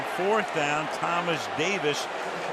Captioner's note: boos